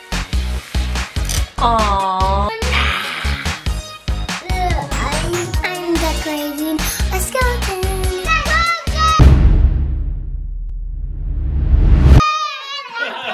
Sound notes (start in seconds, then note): 2.8 growls; 9.1 dramatic drum sound